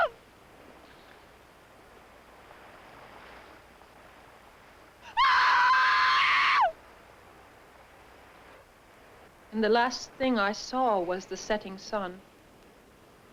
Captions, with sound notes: (SHE SCREAMS) And the last thing I saw was the setting sun.